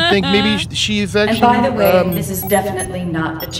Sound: laughs

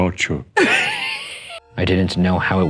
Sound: laughing

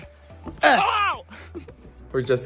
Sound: screaming

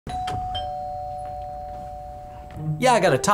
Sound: door bell

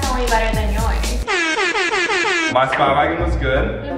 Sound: blaring noise

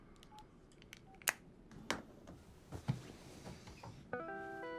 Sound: phone beeping

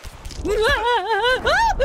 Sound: fear Noises

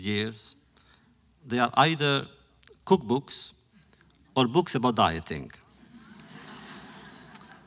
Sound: laughter

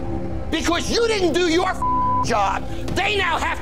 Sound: beep

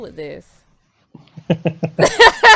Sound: laughs

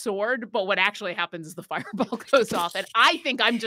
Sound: laughs

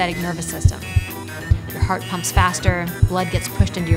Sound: alarm beeping

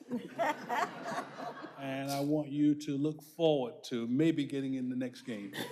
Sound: laughter; laughter

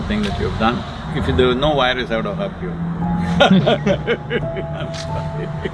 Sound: laughs

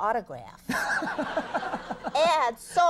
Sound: Conan laughing

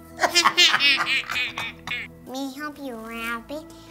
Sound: evil laugh

